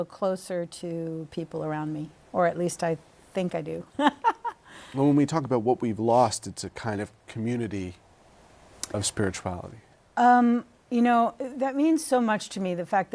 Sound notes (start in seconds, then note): 3.9 laughter